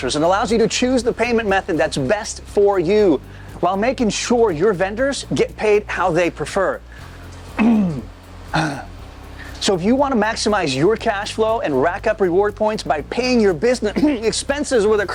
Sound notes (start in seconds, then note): 7.5 clearing throat